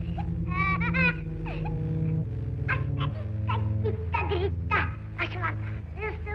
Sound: voices distort

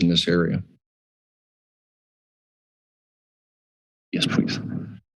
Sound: pause

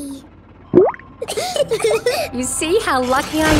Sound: bubbles; laughing

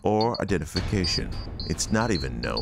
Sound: logo ominously resonating

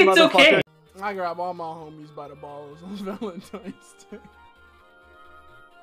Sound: starts dying laughing

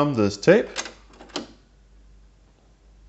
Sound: cassette deck engages; silence

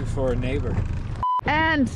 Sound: beep

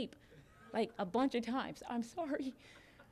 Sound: audience laughing

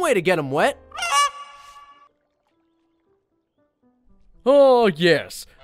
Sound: goose squawks

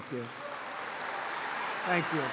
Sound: applause

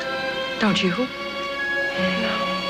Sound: sighs

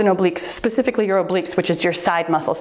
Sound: timer beeps

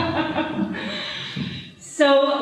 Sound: laughs

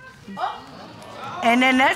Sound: audience gasping

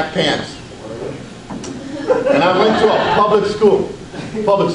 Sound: audience laughs

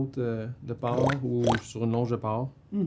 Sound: pig grunts

